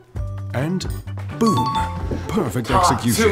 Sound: chiming

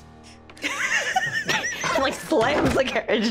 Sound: group laughing

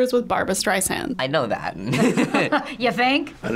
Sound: laughing

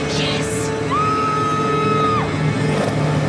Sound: screams

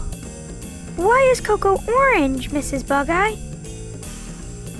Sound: background jazz music; Kool sounds surprised

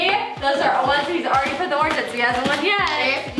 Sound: words slurring together

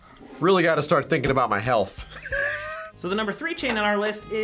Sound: laughs

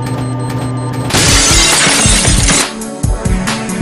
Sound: crash; awesome music

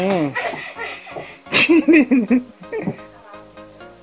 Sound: laugh

